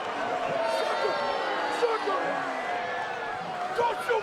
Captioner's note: crowd yelling